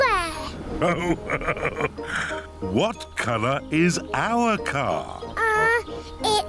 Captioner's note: laughs